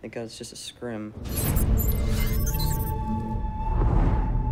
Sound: wind rushing; readout sliding and beeping; ominous orchestral music

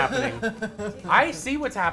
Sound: laughs

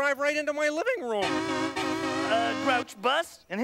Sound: horn honking

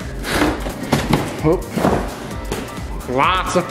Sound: fridge door opens

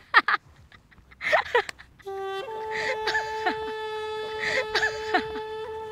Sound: laughs

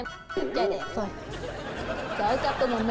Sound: laughing

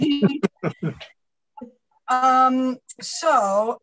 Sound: laughter

